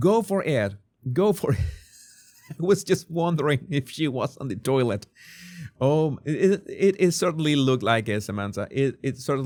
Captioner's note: laughs